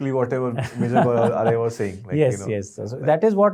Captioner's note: laughing